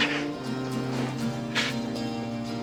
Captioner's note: crying